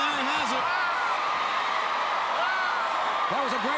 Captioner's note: crowd cheering